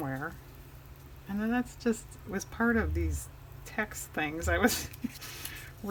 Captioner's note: laughs